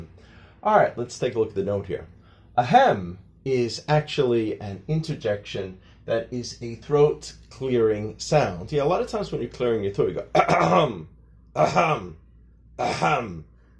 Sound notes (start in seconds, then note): 10.3 ahem sounds